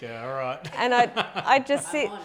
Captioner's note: laughing